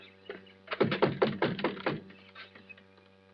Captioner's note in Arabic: طرق الباب